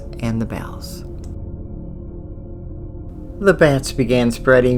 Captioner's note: eerie sound